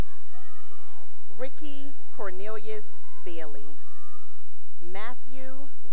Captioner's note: cheering; cheering